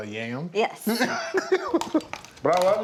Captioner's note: laughs